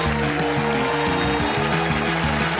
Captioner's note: applause; cheerful music playing